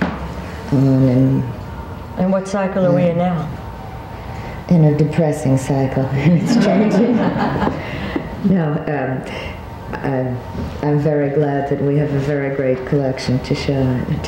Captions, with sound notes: and going. - And what cycle are we in now? - In a depressing cycle, and it's changing. (audience laughing) No, I'm very glad that we have a very great collection to show